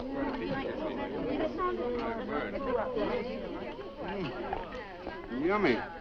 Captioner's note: people chattering